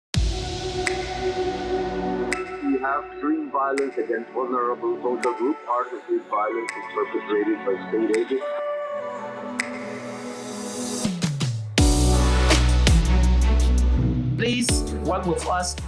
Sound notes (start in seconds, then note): 0.2 upbeat music; 3.2 background talking